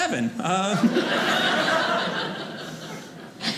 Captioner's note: audience laughing